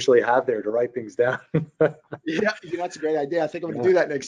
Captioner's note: laughs